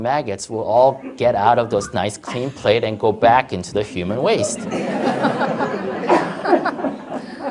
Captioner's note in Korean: 청중 웃음